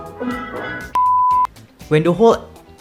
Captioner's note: beep